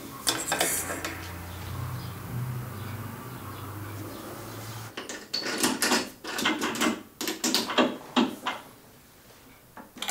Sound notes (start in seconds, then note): 5.3 metal clatter